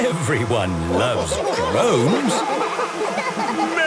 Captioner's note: laughter